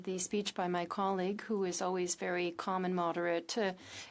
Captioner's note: speaking French